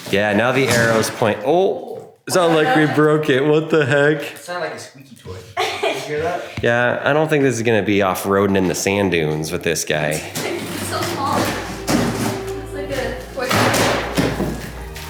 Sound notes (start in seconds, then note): 0.6 box thumps; 10.0 kids talking; 13.4 box snapping